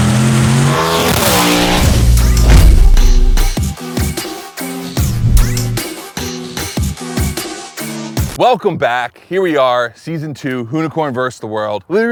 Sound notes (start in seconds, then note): 0.0 car zooming; 0.0 engine purring